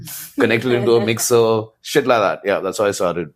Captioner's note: laughs